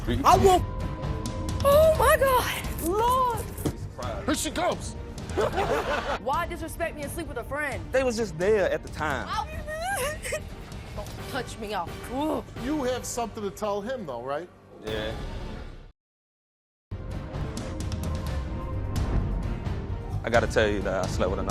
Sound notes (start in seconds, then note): 5.3 laughs; 9.4 crying; 17.0 mysterious music